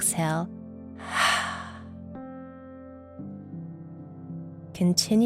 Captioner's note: heavy exhaling